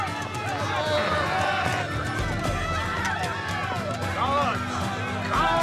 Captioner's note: dramatic music; yelling